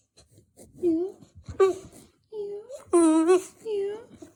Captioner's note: howling